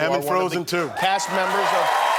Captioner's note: applause